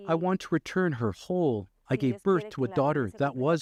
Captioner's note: speaking alternate language